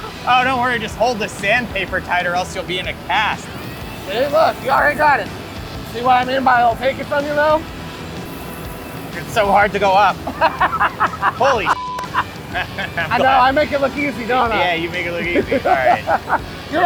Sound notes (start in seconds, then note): 0.0 laughs; 10.2 laughs; 11.7 beep